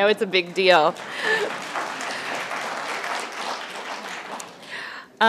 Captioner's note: applause